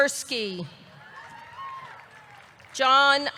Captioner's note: audience cheering; audience clapping